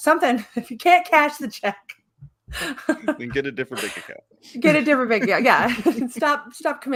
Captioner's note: laughing